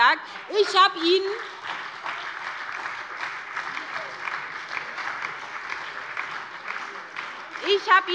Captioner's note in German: Beifall bei der SPD und der FDP sowie bei Abgeordneten der LINKEN